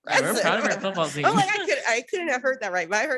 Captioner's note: overlapping chattering